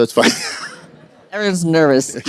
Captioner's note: laughter